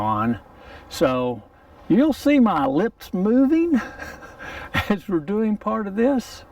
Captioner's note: chuckles